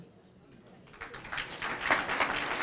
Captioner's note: applause